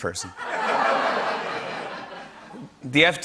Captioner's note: laughter